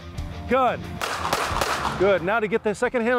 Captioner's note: gun fires